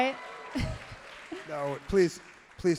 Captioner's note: crowd and cheers and laughs loudly